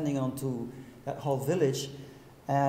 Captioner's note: none